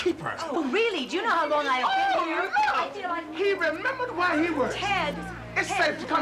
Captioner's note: shouting